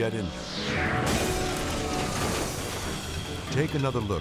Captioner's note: engine bangs